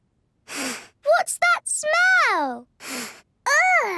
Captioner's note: sniffs; sniffs